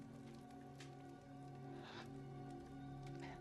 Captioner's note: gasping